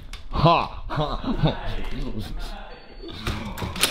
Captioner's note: sniffing